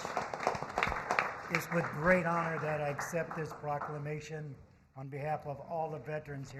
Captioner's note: applause